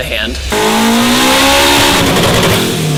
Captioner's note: engine roaring